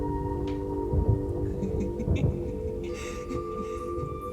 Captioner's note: laughing